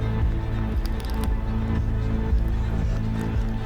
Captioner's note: the music builds to a climax; footsteps running